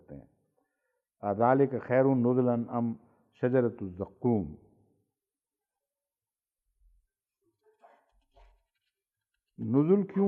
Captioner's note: Arabic